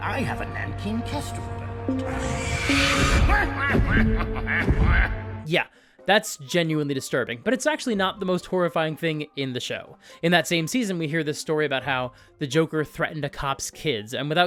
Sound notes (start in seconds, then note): 2.0 bird screeches; 2.1 The Penguin cackles